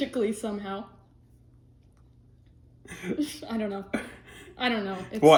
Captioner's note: laughs